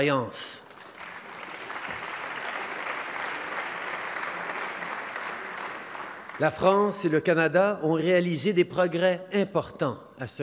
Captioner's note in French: Applaudissements